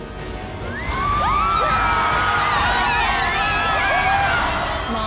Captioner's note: cheering